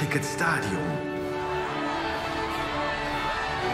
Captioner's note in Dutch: publiek juicht